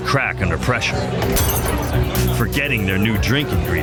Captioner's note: shatter